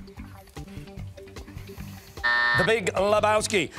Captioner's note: buzzer sounding